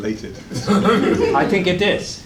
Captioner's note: laughter